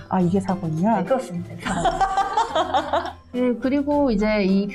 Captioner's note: laughing